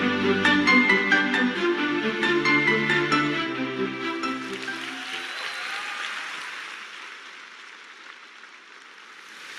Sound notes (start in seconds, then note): 4.3 audience cheering